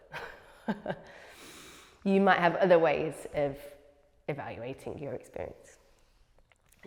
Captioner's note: chuckles